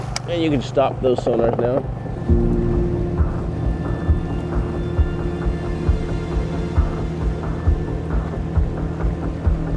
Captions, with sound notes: and you can stop those sonars now. (slow-tempo synth music) (boat engine rumbling)